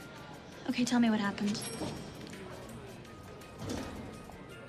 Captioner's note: elevator bell dings